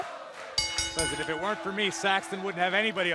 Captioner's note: bell ringing